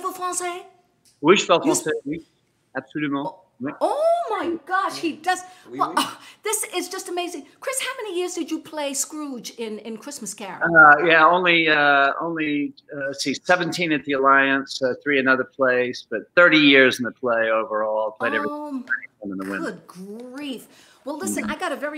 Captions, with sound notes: HE IS LIKE ONE OF THE MOST PROLIFIC ACTORS HERE IN ATLANTA. AND [SPEAKING FRENCH] . ≫ THIS IS JUST AMAZING. CHRIS HOW MANY YEARS DID YOU PLAY SCROOGE IN CHRISTMAS CAROL. ≫ 17 AT THE ALLIANCE. THREE ANOTHER PLACE.